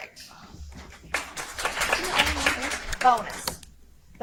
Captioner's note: audience applauds